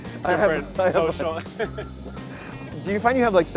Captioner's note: laughs